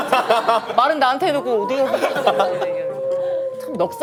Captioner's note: the lone wolf's howl; laughs